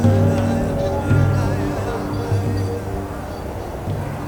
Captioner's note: desert wind